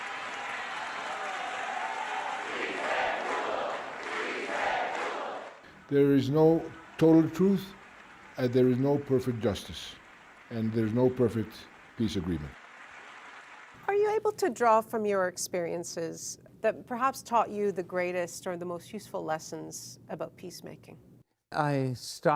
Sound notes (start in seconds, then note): 5.2 applause; 6.8 chanting